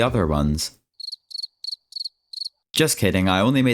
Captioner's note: crickets